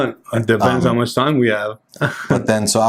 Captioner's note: chuckles